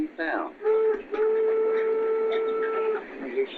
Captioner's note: train whistles